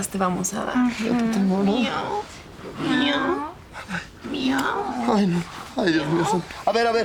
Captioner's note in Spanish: Simulan maullar